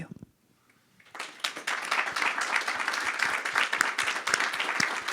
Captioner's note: crowd applause